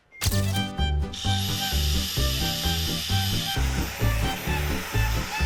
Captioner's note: sanding